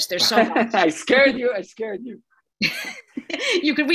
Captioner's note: laughing